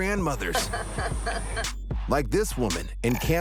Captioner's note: laughs